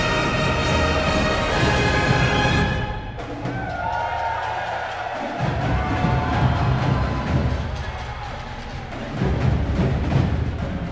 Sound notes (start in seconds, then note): 3.3 cheers and applause